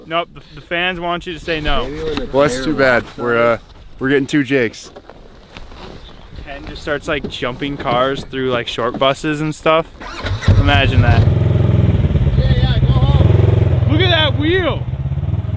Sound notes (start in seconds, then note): 10.0 engine starts